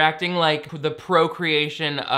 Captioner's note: none